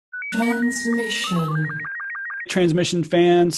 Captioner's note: voiceover